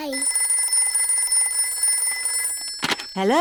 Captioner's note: phone rings